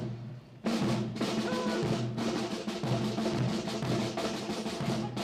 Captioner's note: Commandant du défilé crie des ordres